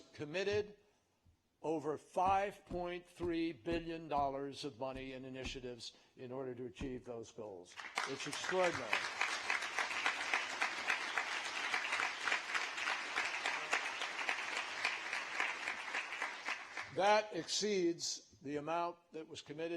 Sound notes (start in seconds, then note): 14.7 applause